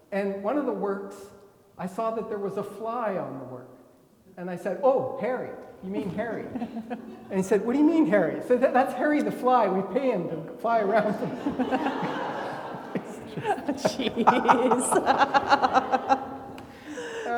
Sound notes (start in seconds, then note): 10.9 everybody laughing